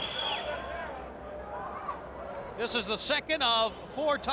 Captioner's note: crowd chatter